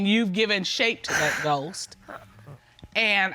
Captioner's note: sobs